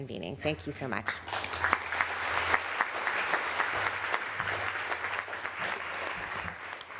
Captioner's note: applause